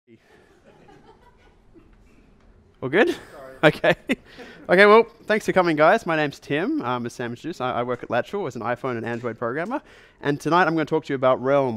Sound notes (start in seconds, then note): 0.2 audience laughter; 3.0 chuckles; 3.4 voiceover